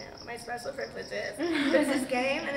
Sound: friends laugh

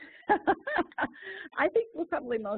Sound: laugh

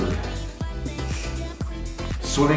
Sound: sniffles

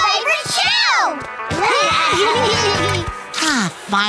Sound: giggling

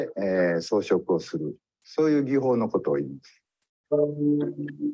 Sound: speaks in Japanese

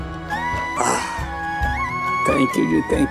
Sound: sighing

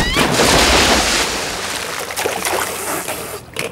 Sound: girls screaming

